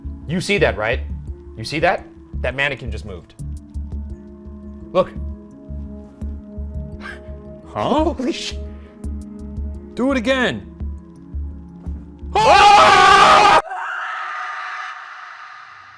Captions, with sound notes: You see that, right, you see that? That mannequin just moved, look, holy shit. - Do it again. (screaming)